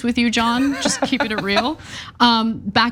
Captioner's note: laugh